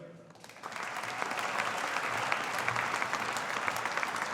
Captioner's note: audience applauding